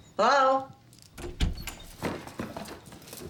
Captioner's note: door opens